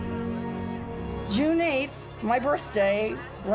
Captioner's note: muffled chatter